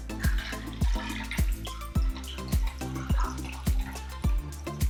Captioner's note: martini pouring